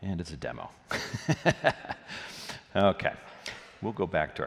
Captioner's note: laughs